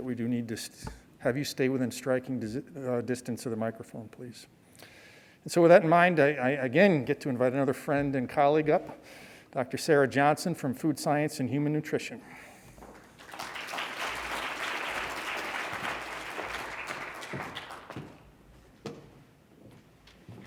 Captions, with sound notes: that we do need to have you stay within striking distance of the microphone, please. And so with that in mind, I, again, get to invite another friend and colleague up, Dr. Sarah Johnson from Food Science and Human Nutrition. (congregation clapping)